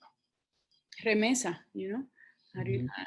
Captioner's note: speaks in foreign language